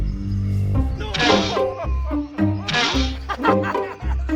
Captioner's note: arrow thudding; people laughing